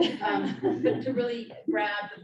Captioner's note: audience laughing